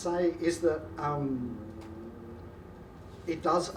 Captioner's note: engine revs